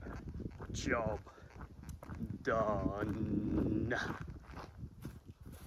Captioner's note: silly voice